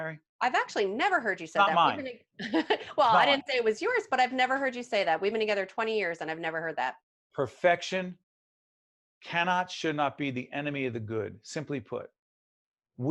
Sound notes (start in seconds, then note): 2.4 laughing